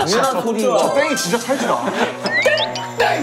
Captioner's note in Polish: Irytujący ton; Chwytliwy dźwięk